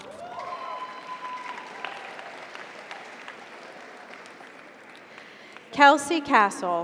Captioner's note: audience cheers; audience applauds